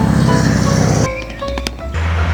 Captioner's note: irritated clapping intensifies